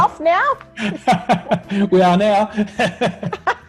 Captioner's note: laughs